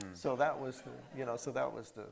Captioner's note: attendees laughing